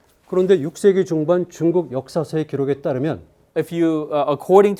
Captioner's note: speaking in Korean